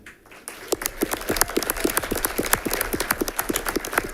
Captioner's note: all clapping